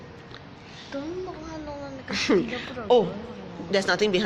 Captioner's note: child mumbling